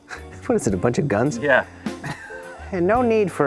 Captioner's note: laughs; laughs